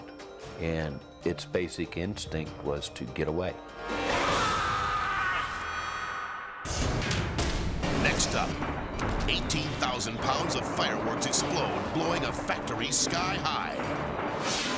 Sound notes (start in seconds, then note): 4.8 yelling; 6.7 graphic thudding; 11.6 fireworks popping